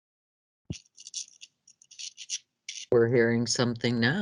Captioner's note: microphone crackling